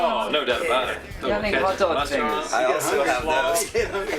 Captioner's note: laughs